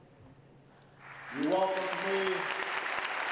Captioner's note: applause